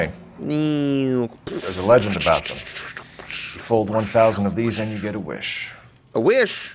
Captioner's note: making fighter aircraft noises